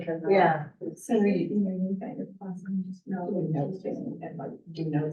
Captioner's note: chatter